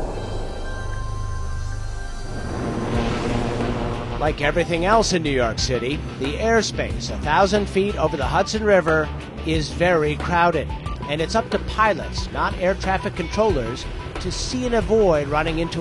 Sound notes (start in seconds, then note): 0.0 whooshing noise; 2.2 helicopter whirring